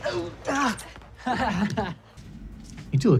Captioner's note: laughing